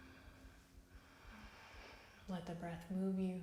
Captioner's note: inhales; exhales